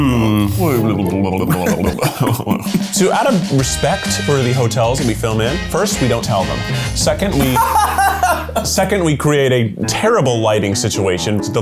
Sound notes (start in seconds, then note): 7.3 laughs